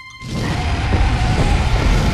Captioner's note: roars